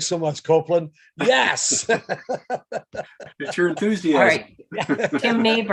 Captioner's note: laughs